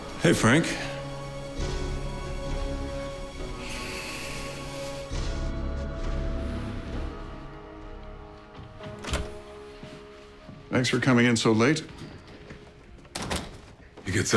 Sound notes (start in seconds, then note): 3.4 sighs; 13.0 door closes